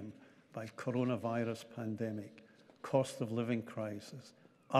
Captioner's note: none